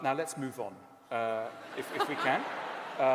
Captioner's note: laughter